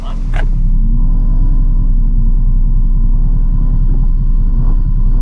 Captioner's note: ATV engine roaring